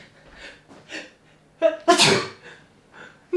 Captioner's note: arcane sneeze